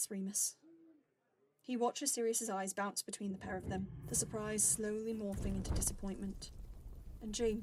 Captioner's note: fire gets louder